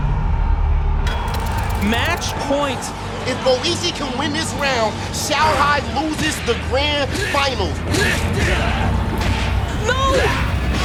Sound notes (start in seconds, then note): 1.0 commentator 1, in English